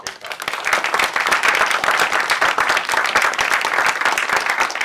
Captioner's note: applause